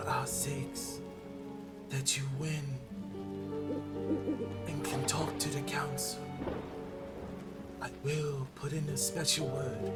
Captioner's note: owl hoot hoot